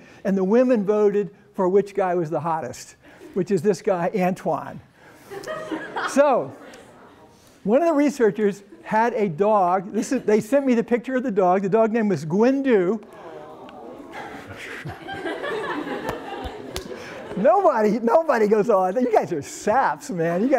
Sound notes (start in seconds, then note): 5.2 laughter; 13.0 sighs and laughter